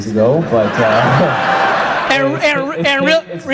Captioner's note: audience laughs